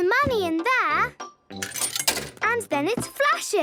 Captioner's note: coin tumbling